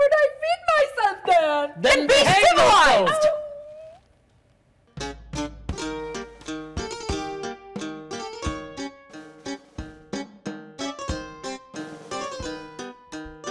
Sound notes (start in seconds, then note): 4.1 Sharik softly whimpers; 5.0 light whimsical folk music